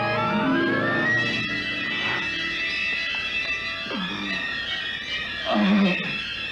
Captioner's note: gasping